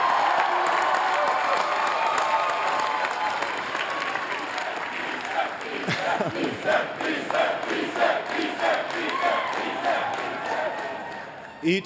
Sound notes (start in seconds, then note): 4.4 chanting